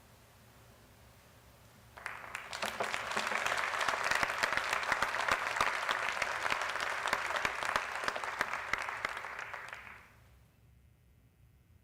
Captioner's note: applause